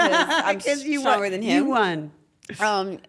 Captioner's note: laugh